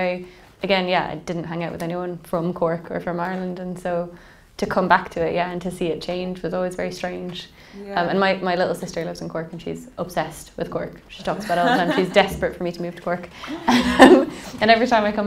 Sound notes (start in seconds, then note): 13.4 laughing